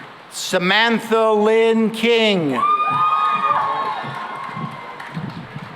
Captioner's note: cheering and applause